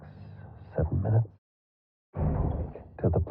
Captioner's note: quietly